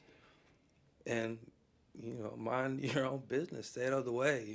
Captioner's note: chuckles